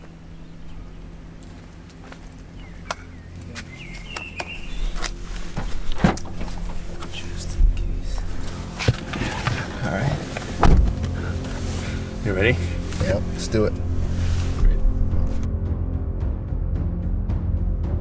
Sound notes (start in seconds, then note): 2.6 patting; 7.0 whispering